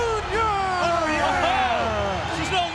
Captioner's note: audience cheers